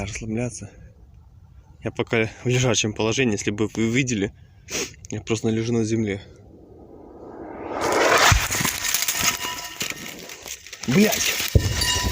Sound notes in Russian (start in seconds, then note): 10.0 Взрыв